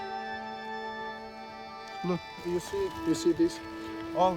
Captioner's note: speaking English